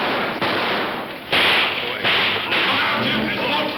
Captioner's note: guns firing; men shouting; guns firing